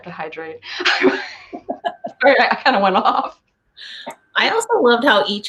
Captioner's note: laughing